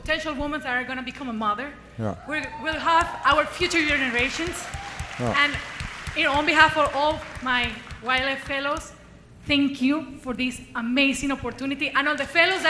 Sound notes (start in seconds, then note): 7.1 applause